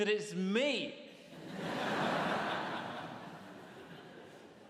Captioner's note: audience laughs